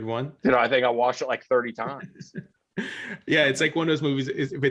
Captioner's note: chuckling